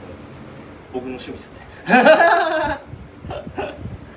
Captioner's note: laugh